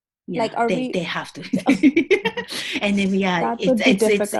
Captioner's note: laughing